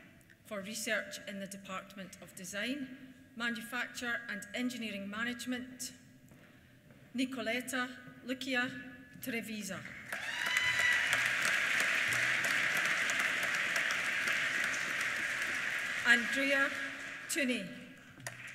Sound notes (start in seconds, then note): 10.0 applause; 10.0 cheers; 18.2 applause